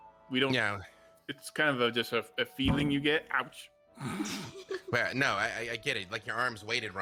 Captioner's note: thunk sound